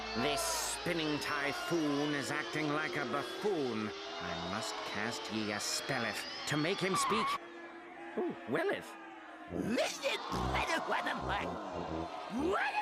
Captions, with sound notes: THIS SPINNING TYPHOON IS ACTING LIKE A BUFFOON! I MUST CAST YE A SPELLETH TO MAKE HIM SPEAK, OH, WELLETH! [audience jeering]